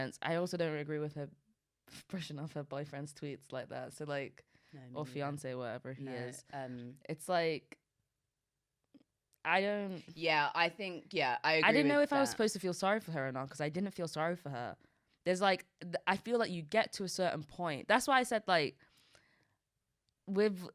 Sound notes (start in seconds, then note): none